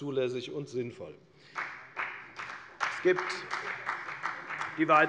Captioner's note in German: Beifall bei der FDP